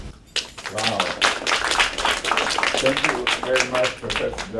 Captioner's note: applause